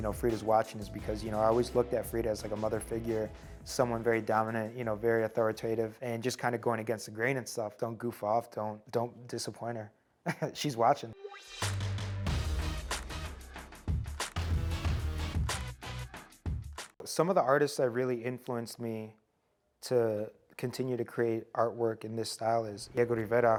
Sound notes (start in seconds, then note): 10.2 chuckles; 11.2 upbeat music